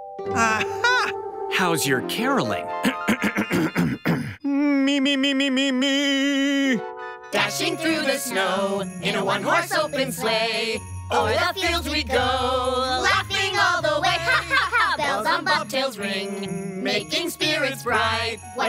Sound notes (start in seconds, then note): 2.8 clears throat